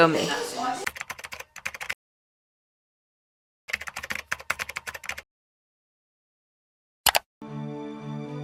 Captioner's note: click; typing sound effect